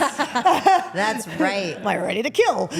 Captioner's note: Rhea laughs; laughs